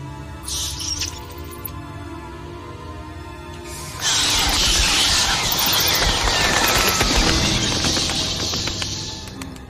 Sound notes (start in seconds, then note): 0.4 bats screeching; 5.3 bats screeching